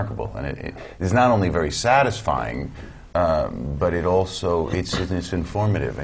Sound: cough

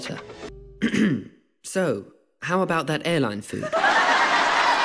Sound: ahem

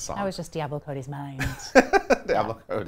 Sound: laughing

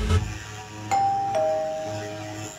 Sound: doorbell rings

